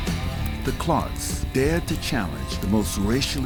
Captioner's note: voiceover